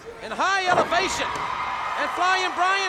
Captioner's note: crowd cheering; body thudding